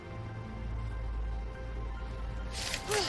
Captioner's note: digs, grunts